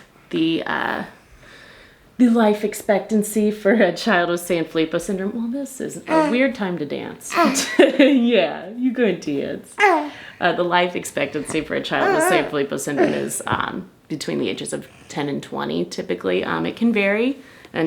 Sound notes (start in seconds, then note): 7.3 vocalizing; 7.4 laughing